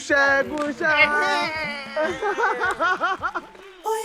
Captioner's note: cheering